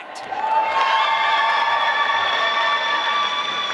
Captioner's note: applause